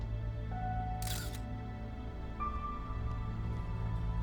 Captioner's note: camera shutter clicks; suspenseful music